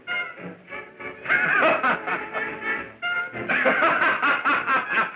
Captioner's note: laughing